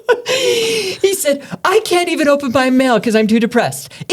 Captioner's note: both laughing